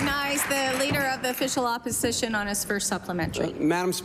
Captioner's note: applause